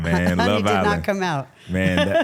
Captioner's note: laughs